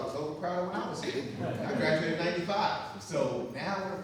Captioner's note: audience laughing